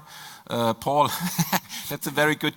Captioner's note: laughs